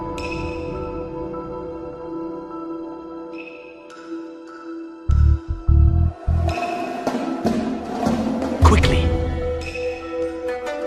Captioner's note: melee slash